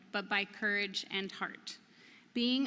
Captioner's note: none